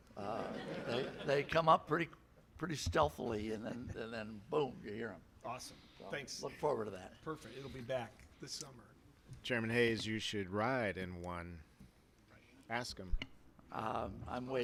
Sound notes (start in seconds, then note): 0.2 laughter